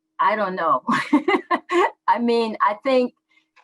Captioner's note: laughs